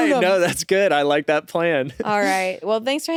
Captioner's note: laughs